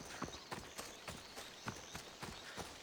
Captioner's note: none